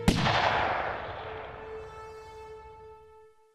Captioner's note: gunshot